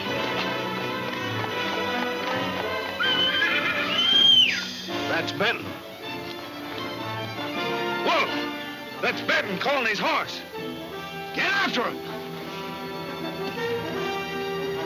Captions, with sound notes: (Jim whistling) That's Benton. - Wolf, that's Benton calling his horse. - Get after him. (thrilling music)